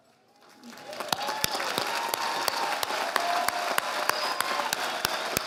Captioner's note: audience applauding